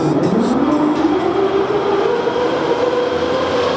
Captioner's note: loud zipping